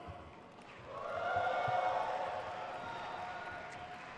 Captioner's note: crowd cheers